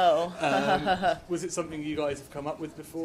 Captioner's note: laughs